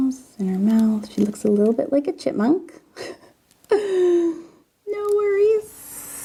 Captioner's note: laughs